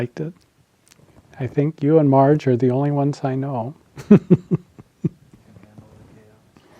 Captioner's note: laughs